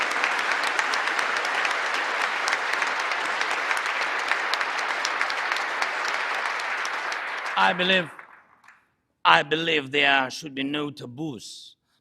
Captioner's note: cheering and Applause